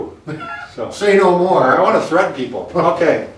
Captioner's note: laughs